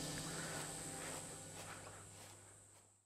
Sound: crickets croaking; footsteps rasping

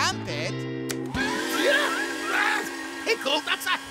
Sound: grunting

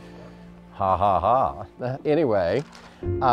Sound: sarcastically

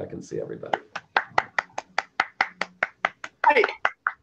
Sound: applause

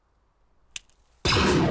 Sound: space twig snaps

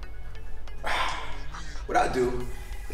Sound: exhales

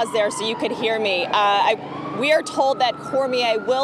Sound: siren blaring

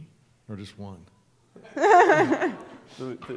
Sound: laughter

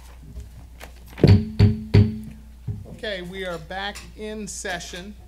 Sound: gavel pounding

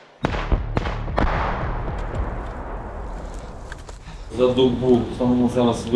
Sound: shooting

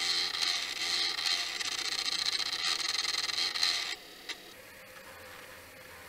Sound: drill whirring

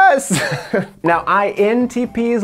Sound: laughs

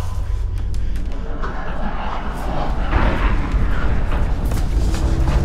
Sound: approaching creature sounds

